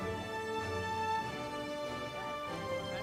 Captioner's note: none